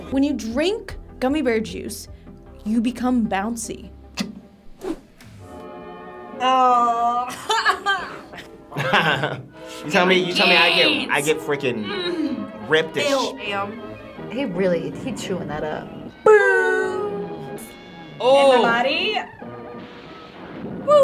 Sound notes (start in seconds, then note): 4.7 laughs; 8.7 laughs